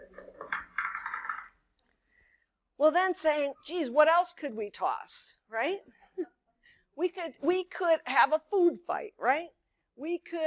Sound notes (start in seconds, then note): 0.4 dice falls